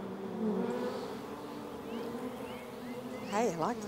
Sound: bees buzzing

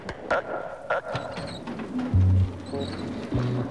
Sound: squeaking

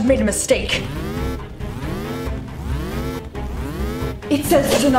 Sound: detector alarm blaring

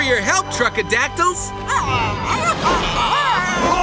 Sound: squawking

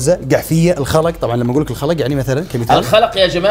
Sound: in Qatari dialect

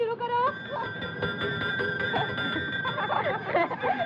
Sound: bell Tolling

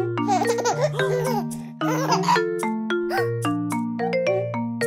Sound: upbeat music; child laughs

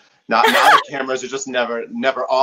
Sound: laughing

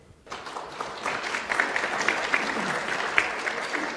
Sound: applause

